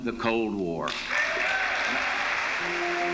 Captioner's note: cheers and applause